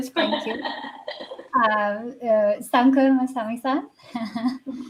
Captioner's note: laughter